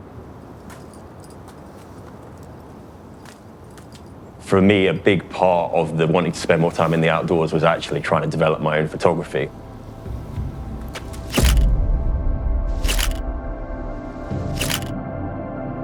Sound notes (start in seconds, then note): 0.0 soft, muffled gentle breeze; 0.3 boots crunching on snow and rock; 11.2 camera shutter repeats - schuck - schuck - schuck